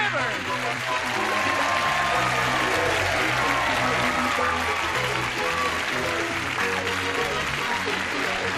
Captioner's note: applause, cheering